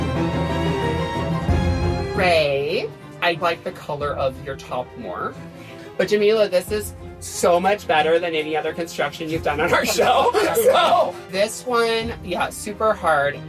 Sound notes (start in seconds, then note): 9.6 laughter